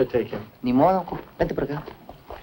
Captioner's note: speaking spanish